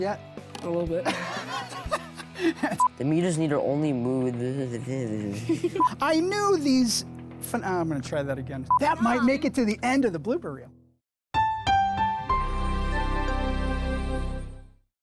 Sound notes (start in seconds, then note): 1.0 all laughing; 12.1 upbeat music